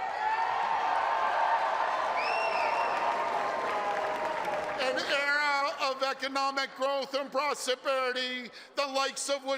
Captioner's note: applause